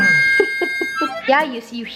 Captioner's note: laughs